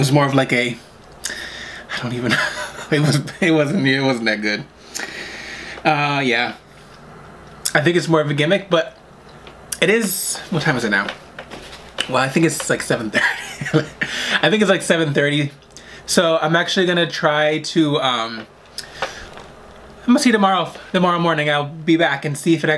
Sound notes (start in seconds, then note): 13.2 laughs